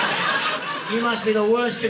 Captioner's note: audience laughing